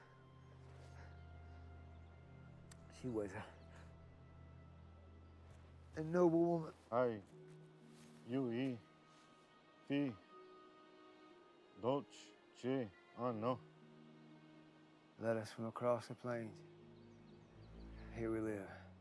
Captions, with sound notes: She was a noble woman. (speaking in foreign language) Let us go across the plains. Here we live.